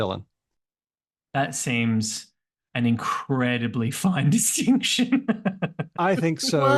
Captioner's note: laughs